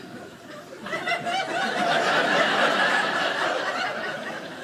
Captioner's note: audience laughing